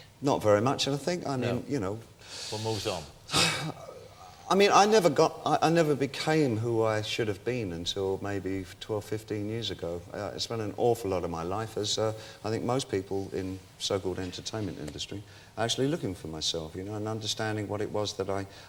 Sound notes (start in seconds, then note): 2.2 exhales; 2.2 inhales